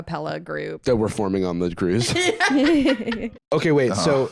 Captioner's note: laugh